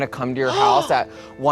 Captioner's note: gasps